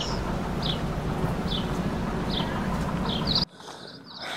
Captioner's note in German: idyllisches Vogelgezwitscher